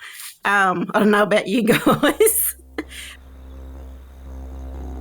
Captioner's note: laughs; didgeridoo humming